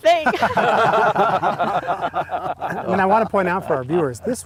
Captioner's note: laughing